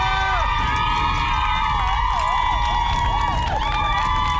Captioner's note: cheering